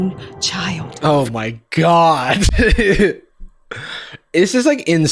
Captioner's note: laughs